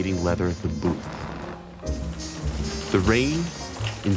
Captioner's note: leather crunches